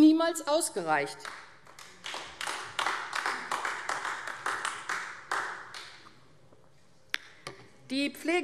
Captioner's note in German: Beifall AfD